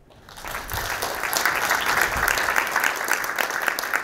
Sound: audience applauding

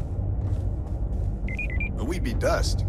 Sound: footsteps pattering; device beeping

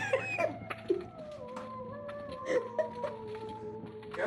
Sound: laughing

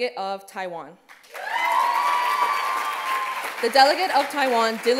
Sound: cheers

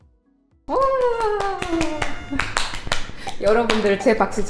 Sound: clap clap

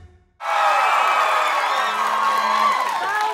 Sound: audience cheering

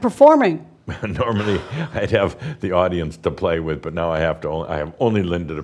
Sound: chuckles

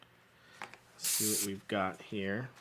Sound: hissing

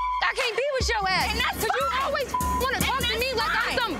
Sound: beep

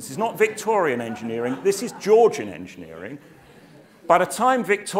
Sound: laugh

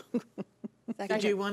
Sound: chuckling

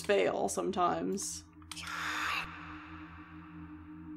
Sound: low, Hissing Voice

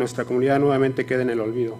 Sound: speaking foreign language

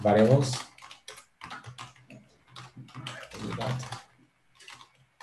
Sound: keyboard clattering

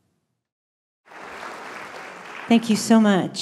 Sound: applause

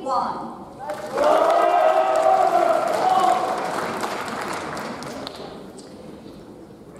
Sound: audience cheers; audience applauds

